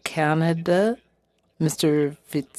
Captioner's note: speaking French